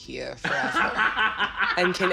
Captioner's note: laughter